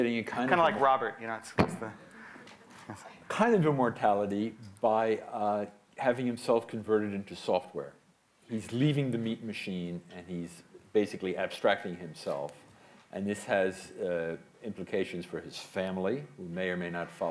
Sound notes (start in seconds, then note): none